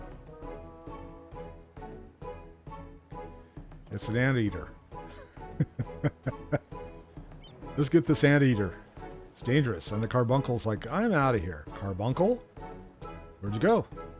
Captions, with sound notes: It's an anteater. [laughs] Let's get the sand eater. It's dangerous. And the carbuncle's like, "I'm out of here." Carbuncle? Where'd you go?